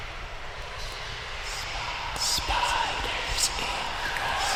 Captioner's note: sinister Whispers